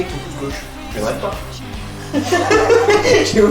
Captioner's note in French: rires